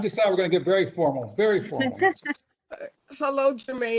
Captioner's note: laughter